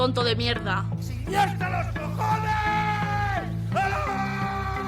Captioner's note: yelling